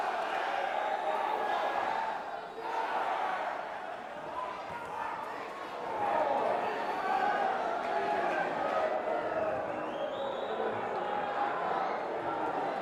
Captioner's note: crowd chatter